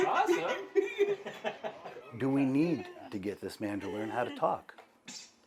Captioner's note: laughter